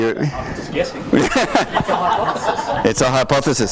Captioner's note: voiceover